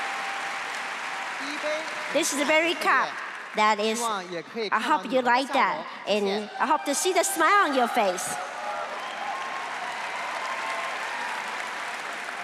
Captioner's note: crowd cheering